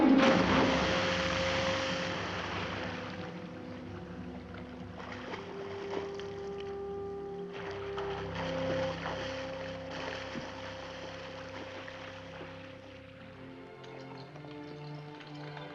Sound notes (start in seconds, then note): 0.0 Frenchy screams; 0.2 water splashes; 5.1 water splashing below